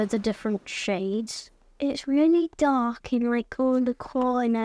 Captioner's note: none